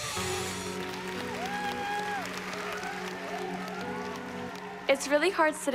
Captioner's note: cheering